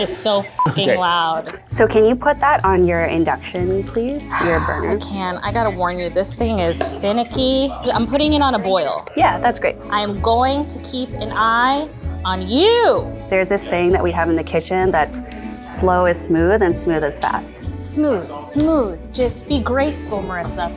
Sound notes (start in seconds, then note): 0.6 beep; 4.4 sigh